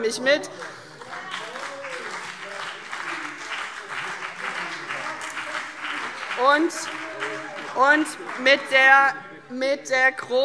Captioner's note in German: Beifall CDU und BÜNDNIS 90/DIE GRÜNEN - Zurufe SPD und Freie Demokraten